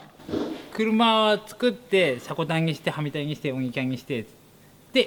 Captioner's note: speaking Japanese